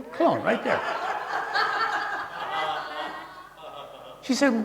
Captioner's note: audience laughing